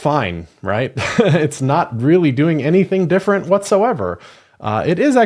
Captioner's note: laugh